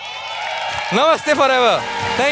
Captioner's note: audience clapping